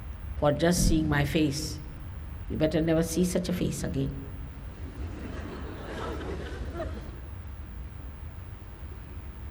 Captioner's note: laughter